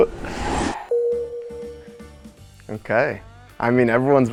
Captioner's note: bell dings